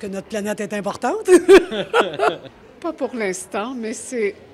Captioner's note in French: rires